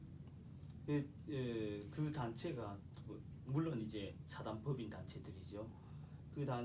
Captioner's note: speaking korean